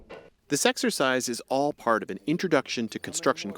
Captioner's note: voice-over